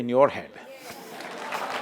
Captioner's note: applause